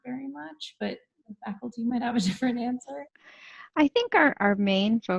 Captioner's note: chuckles